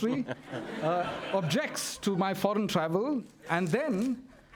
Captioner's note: laughter